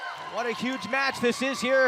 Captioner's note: cheers & applause